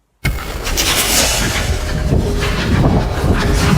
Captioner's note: whooshing